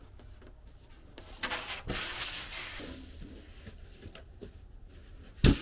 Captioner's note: foam scraping